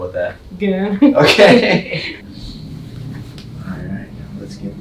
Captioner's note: laughs